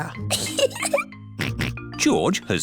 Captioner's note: giggles; snorts